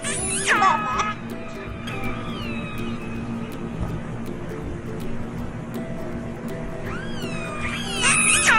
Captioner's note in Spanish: sonido orcas